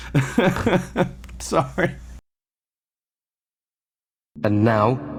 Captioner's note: laughs